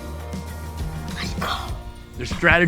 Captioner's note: whispering